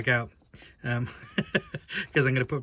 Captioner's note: laughter